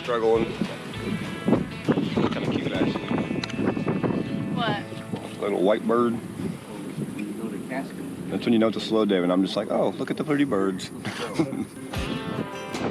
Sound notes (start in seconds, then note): 8.0 fisherman speaking in background; 11.0 man chuckling